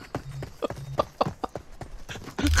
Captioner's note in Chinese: 大笑